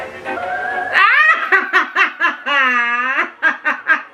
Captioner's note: spooky music; laughing